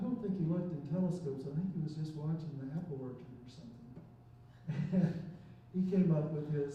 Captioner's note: chuckles